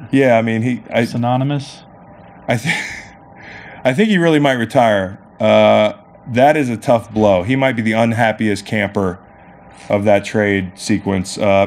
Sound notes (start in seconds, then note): 2.5 laughing